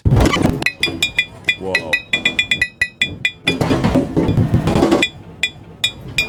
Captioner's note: alarm beeping